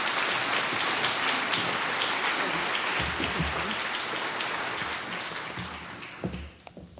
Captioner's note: applause